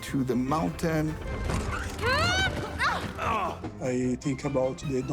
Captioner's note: tires screech; all grunt